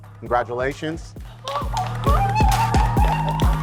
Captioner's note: squealing; applauding